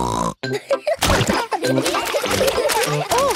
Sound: snorting; laughter

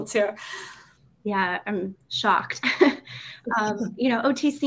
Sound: laughs

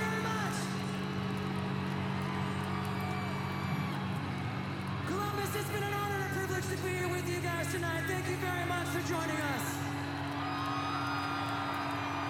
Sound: applause

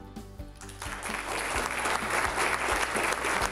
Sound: applause

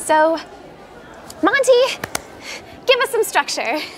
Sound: claps

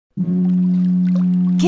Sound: foghorn sound

